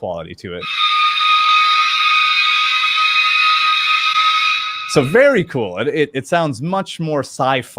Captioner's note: high pitch squeaking